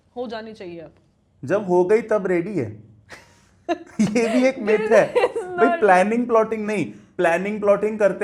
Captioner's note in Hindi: हंसी